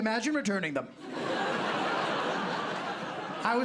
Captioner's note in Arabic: ضحك